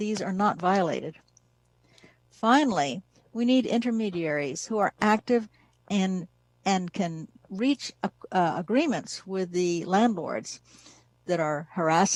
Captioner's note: spanish